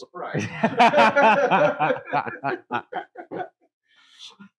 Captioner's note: laughing